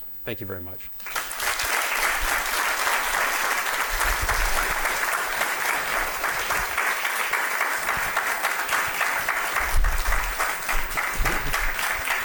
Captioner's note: applause